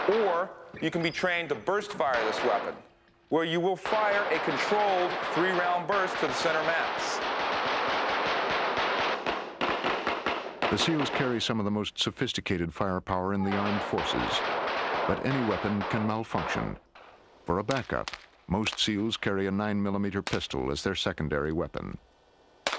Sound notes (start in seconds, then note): 10.8 voiceover